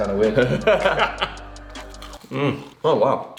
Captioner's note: laugh